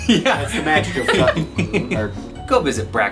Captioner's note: laughs